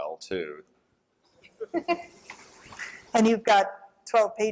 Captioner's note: laughter